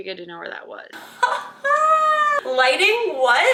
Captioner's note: laughing